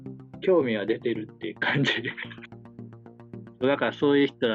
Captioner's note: laughs